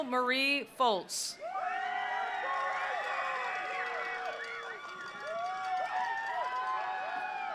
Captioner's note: attendees cheering; attendees applauding